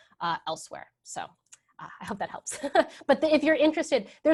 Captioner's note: laughs